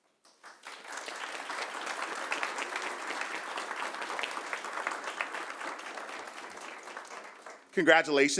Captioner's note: applause